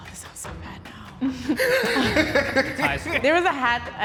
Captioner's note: laughter